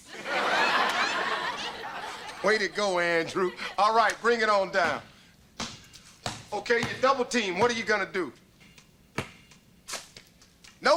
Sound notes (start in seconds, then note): 0.0 audience laughter; 5.5 ball bouncing